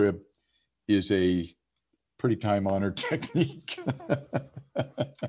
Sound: laughs

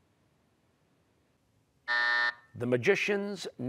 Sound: buzzer

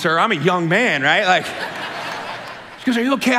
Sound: congregation laughing

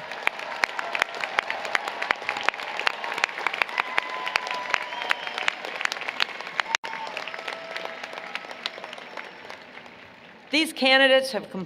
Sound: applause, Cheering

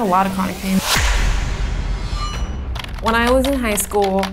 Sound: metal clanging, keys clicking

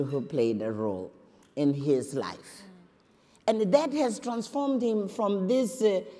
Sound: none

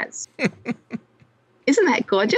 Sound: laughs

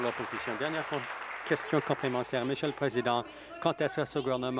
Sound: applause

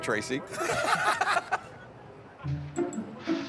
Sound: laughter

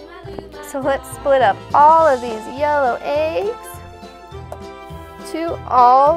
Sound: voice-over

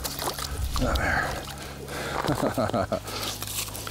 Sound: laughs

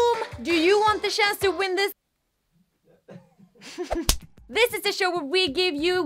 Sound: laughter

